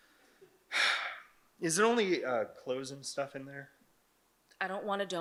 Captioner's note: sighs